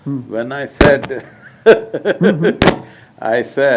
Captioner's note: laughs